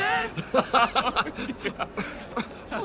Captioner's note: laughter